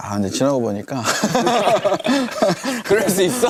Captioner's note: haha